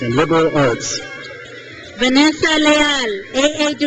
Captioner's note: crowd cheers